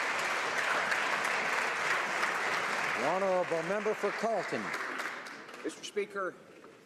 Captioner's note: applause